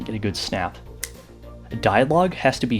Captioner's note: fourth snap